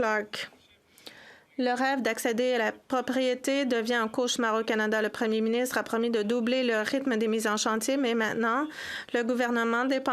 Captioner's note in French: voix de l'interprète